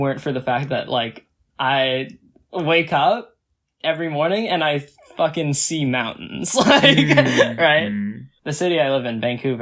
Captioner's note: laughs